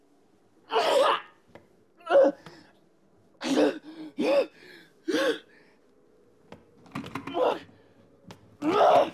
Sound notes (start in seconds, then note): 2.0 groaning